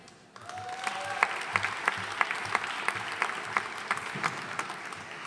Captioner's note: audience cheering and applauding